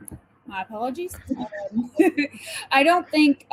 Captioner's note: laughs